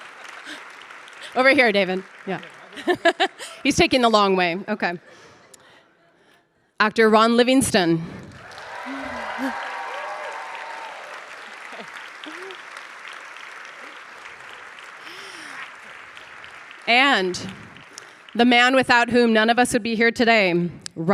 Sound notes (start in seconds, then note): 2.5 laughs; 8.5 audience applauding